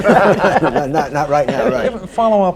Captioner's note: laughter